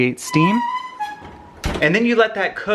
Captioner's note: closing door